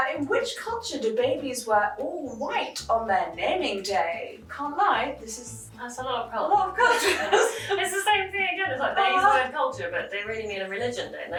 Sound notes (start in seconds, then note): 6.8 both laughing